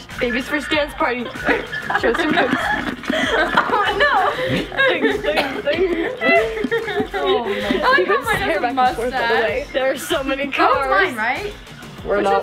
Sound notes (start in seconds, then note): 4.6 laughing